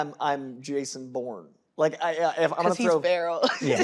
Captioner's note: laughs